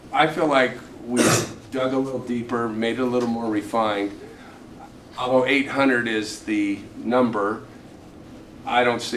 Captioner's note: clears throat